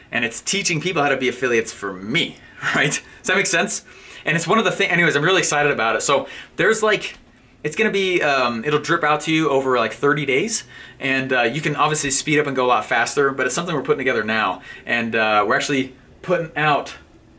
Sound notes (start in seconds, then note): 2.6 laughing